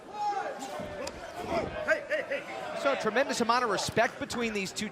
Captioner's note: crowd chatter